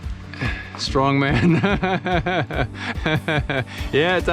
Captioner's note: chuckles; speaks foreign language